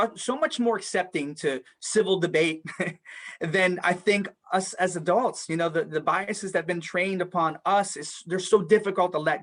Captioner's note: laughs